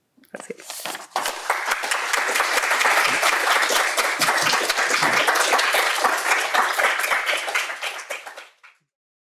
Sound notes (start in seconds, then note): 0.6 applause